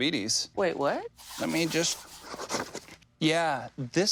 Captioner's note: pen scribbles